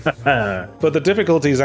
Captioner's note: laughs